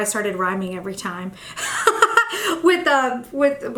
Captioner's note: laughs